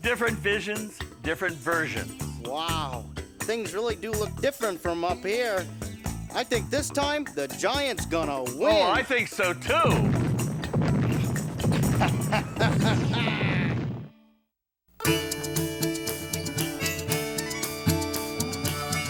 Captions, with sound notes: - Different visions, different versions. - Wow things really do look different from up here. I think this time the giant's gonna win. - Oh, I think so too. (footsteps stomping) (happy lighthearted music)